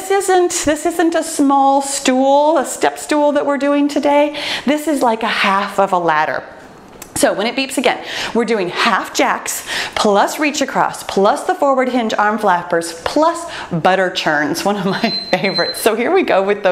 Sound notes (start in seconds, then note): 14.1 laughs; 14.9 timer beeps